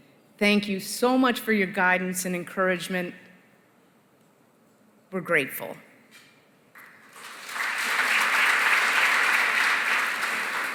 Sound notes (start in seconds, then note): 6.7 applause